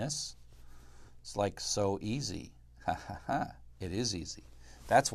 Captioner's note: laugh